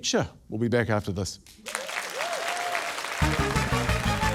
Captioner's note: cheering, applause; upbeat fanfare